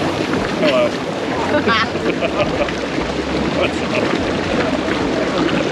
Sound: laughter

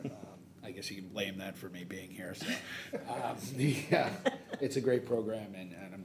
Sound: laughing

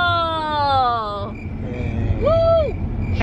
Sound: crickets

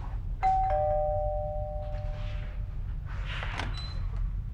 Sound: doorbell rings

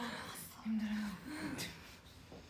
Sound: whispers

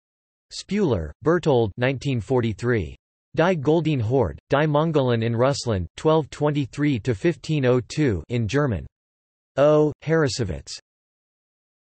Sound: in German

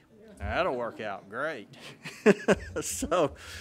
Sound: laughing

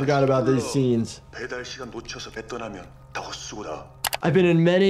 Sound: man continues speaking in foreign language; mouse clicks

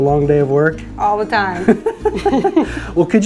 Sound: both laughs

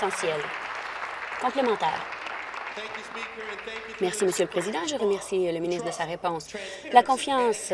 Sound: applause

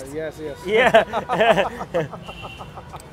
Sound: laughs

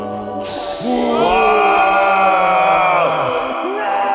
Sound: cheering

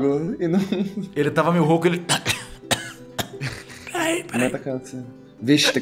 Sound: coughing

